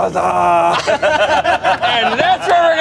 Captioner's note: everyone laughs